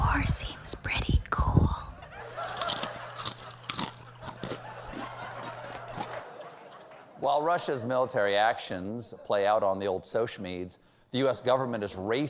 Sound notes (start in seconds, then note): 2.5 crinkles chips; 2.5 clacks fingernails